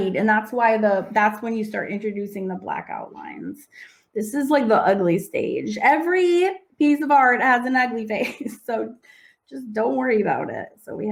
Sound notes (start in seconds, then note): 7.8 chuckles